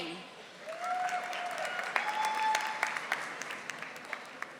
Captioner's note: audience applauding